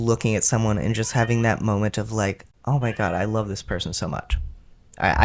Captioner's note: meow; meow